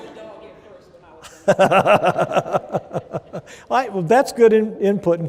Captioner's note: laughter